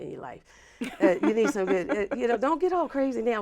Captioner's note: laughs